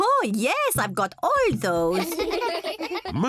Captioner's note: kids giggling